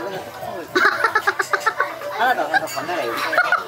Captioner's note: laughs